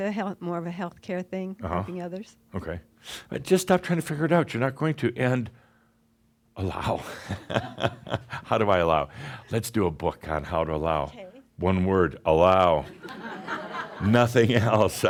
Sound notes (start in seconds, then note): 6.7 chuckles; 13.3 some chuckles